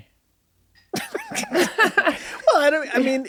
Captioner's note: laughing